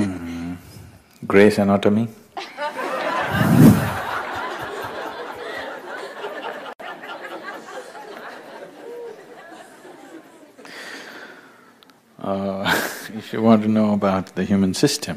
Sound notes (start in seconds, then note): 8.3 laughter